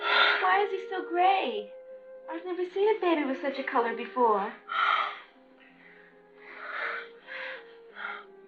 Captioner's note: sighs; sighs